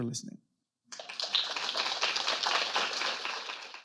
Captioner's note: audience claps